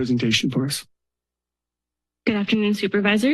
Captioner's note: silence